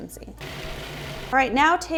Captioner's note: blender whirring